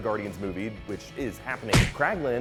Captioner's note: smack!